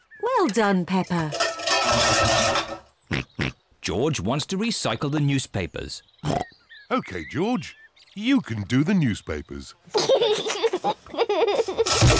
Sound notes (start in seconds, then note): 1.3 cans clatter; 2.8 snorts; 9.8 giggles